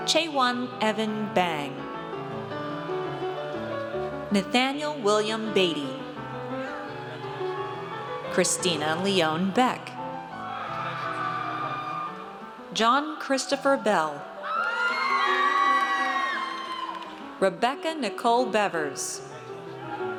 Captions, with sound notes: ChaeWon Evan Bang. Nathaniel William Batey. (audience cheers) Kristina Leone Beck. (audience cheers) John Christopher Bell. (audience cheers) Rebecca Nicole Bevers.